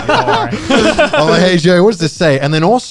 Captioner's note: guys laughing